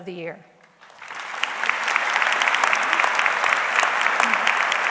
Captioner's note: audience clapping